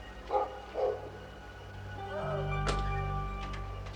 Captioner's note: dog barking